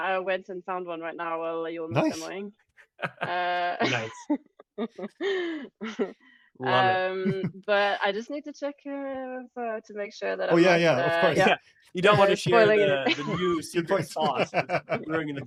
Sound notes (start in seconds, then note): 3.0 laughs; 3.1 laughing; 6.7 laughs; 12.0 laughs